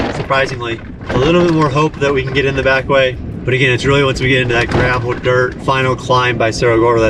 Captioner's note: metal clanking; engine revving